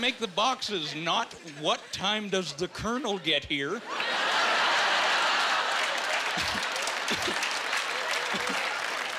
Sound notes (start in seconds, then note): 3.9 laughing